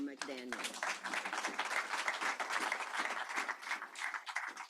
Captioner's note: applause